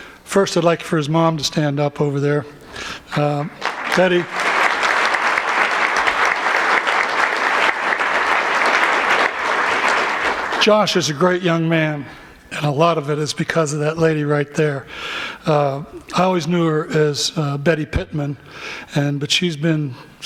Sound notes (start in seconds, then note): 9.0 applause